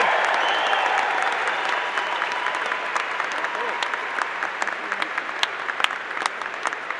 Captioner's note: applause